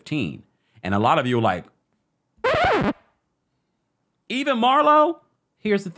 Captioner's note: record scratch